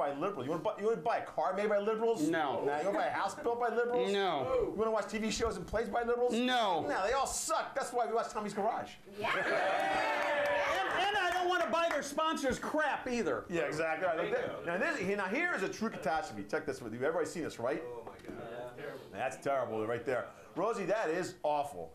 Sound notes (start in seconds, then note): 9.2 audience cheering